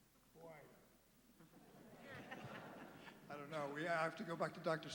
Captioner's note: laughter